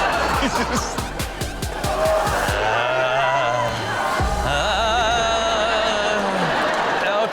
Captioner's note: audience laughs; host makes zombie sounds